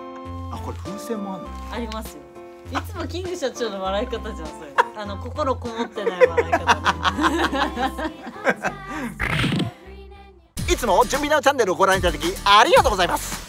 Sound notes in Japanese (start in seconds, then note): 9.1 効果音